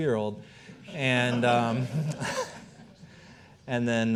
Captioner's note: all laughing